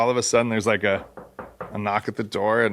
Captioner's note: knocks on desk